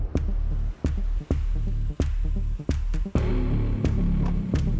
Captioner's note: car approaching